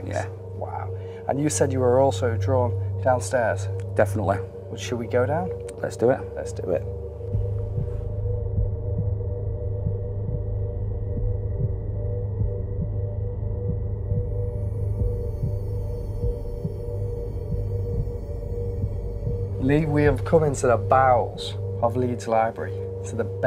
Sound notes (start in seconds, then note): 7.7 heart beating